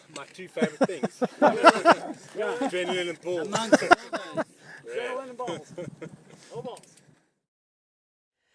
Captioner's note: laughter